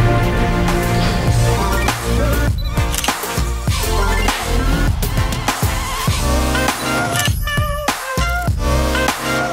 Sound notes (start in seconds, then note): 2.0 upbeat music; 2.9 camera clicking